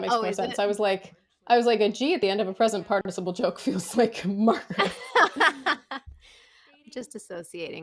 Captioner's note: laughter